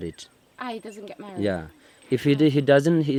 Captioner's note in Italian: Inglese